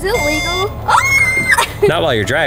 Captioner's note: screams